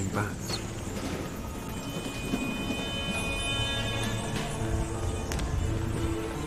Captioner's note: bats squeaking